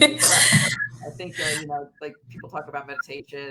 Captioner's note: laughter